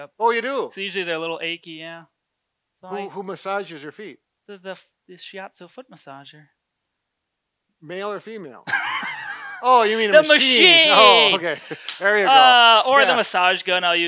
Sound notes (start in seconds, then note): 10.1 laughs